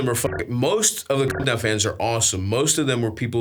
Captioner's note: beeps